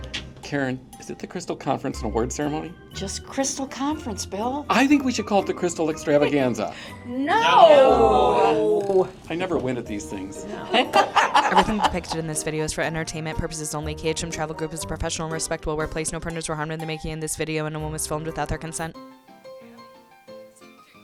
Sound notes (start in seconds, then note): 10.6 laughter